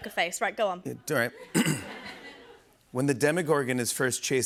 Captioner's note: clears throat